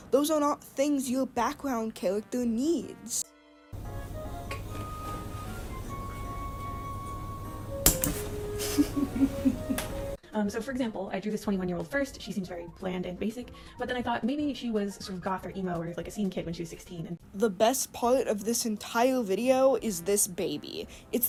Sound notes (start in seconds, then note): 8.6 lighter turning on followed by giggling; 10.3 calming music